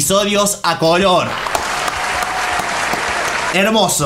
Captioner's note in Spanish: Aplausos